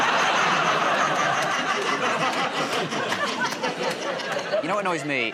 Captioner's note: laughter